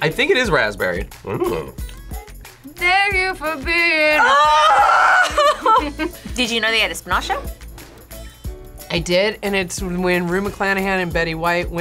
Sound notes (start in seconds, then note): 4.2 laughs